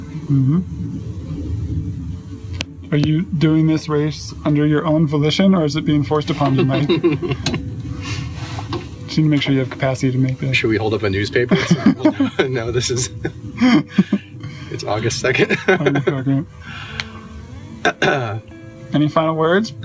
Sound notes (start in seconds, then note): 6.4 laughter; 15.3 laughter